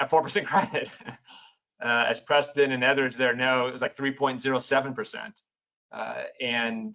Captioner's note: laughs